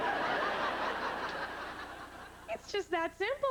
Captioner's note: laughter